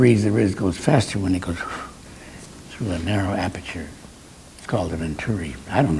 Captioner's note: blows air